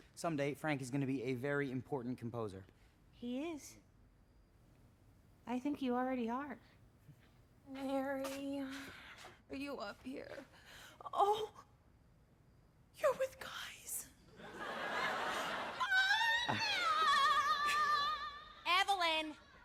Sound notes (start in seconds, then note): 15.8 shrieking; 17.7 chuckles